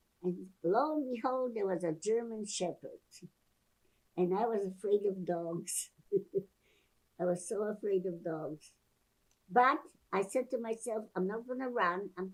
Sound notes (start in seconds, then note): 6.1 laughing